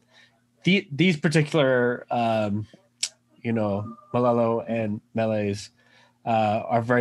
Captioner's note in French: chants